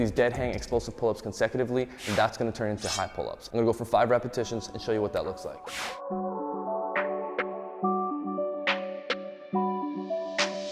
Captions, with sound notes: to do these deadhang explosive pull-ups consecutively, and that's gonna turn (air whooshing) into high pull-ups, (blades clinking) and I'll go for five repetitions, and show you what that looks like. (air whooshing) (hip hop music)